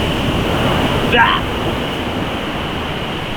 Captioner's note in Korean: 절규